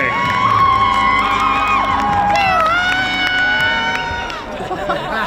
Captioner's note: crowd cheers